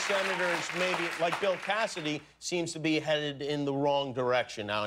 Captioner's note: cheers and applause